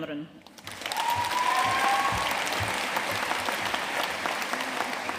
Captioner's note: audience cheering and applauding